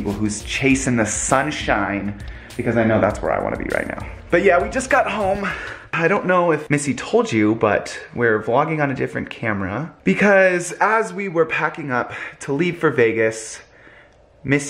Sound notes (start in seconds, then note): none